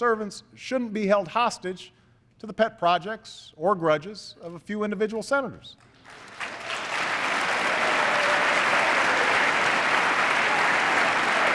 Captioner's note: applause